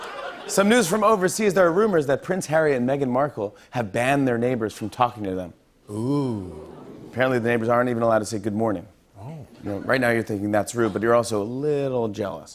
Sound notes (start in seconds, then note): 5.9 audience "ooh"s